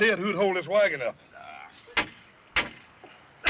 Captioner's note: groans